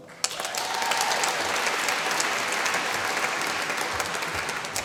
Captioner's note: applause